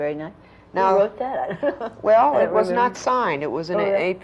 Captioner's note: laughs